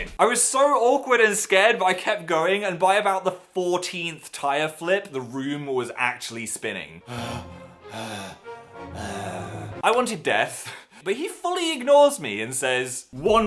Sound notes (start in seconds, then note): 7.0 gasping for air; 8.9 laughs